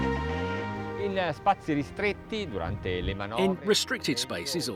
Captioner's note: speaks in foreign language